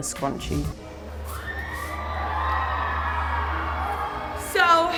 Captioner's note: cheering